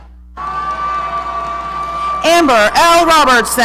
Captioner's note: audience cheering